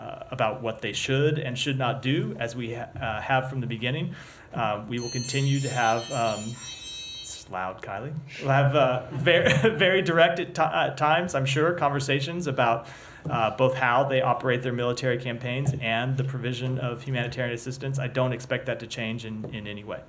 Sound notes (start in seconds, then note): 5.0 cell phone rings; 9.0 laughter